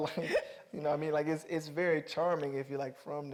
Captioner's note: Mireille laughing